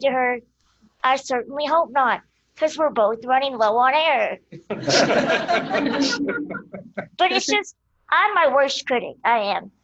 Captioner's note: laughter